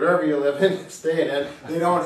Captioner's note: chuckling